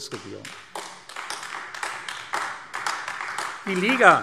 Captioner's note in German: Beifall AfD